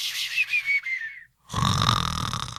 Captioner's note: snores